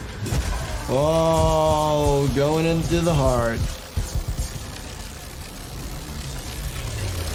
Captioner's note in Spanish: zumbido eléctrico